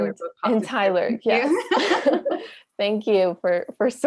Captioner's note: laughter